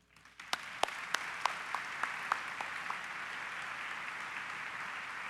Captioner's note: audience applause